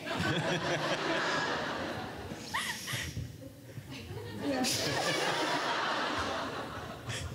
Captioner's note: everyone laughs